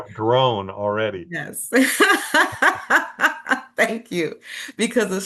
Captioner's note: laughing